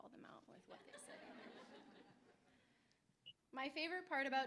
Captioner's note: laughter